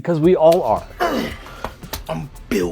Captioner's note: speaker grunts